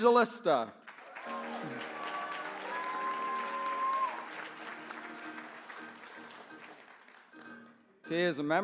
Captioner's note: applause